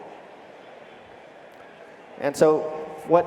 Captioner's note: crowd conversing in background